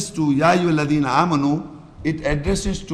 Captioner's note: Arabic